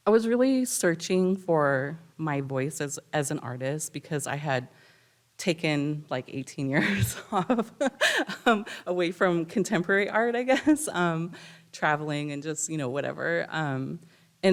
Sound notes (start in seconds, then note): 6.8 laughs